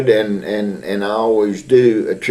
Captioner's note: laughs